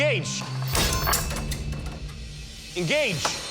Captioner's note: crashing